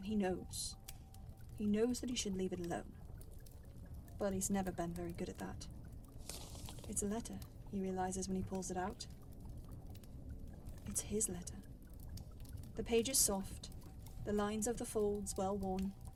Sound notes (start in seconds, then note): 5.9 parchment unfurls